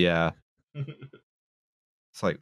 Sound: chuckles

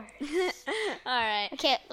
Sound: laughing

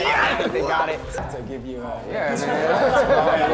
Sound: cheering

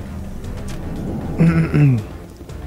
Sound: clears throat

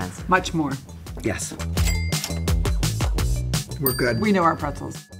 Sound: cash register dings

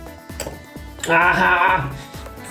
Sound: clunks

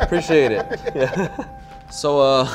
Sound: laughs

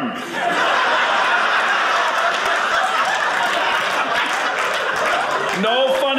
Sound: audience laughing

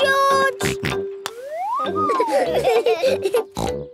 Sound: laughing; snort, laughing; snort

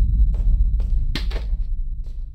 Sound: book falling and hitting the ground

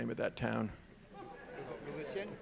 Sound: audience laughing

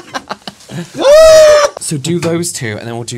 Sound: scored A Goal Scream

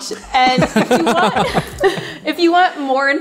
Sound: laughs

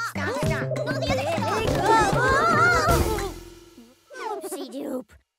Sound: all Exclaiming

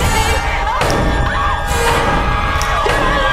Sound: pounding

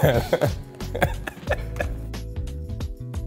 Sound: laughter

